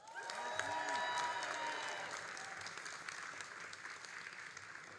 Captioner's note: all applauding and cheering